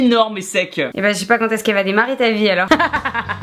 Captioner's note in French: Rires